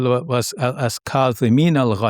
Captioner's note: speaks in foreign language